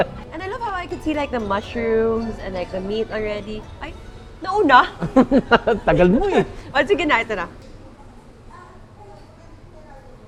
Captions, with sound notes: - And I love how I could see like the mushrooms and like the meat already. Oh, he went first. (laughs) - You're too slow. - All right. Here we go.